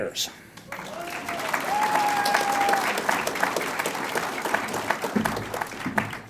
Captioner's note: audience cheers and applauds